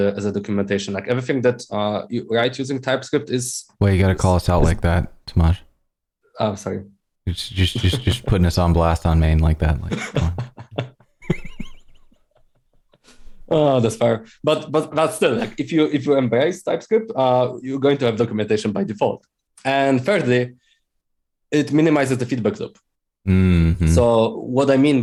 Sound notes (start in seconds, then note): 9.9 laughter